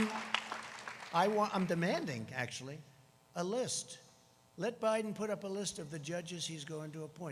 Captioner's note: applause